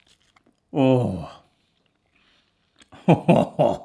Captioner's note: laughs